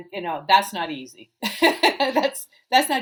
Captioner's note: laughing